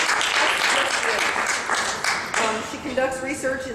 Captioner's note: clapping